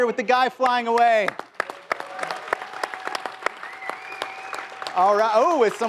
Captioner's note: applause